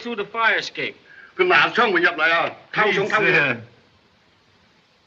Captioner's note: speak Chinese